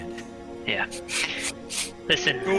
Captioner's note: sniffs